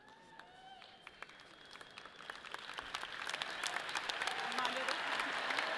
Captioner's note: audience applauds; people cheer